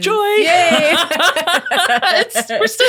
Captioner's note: laughing